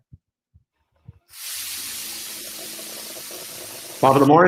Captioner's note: sizzling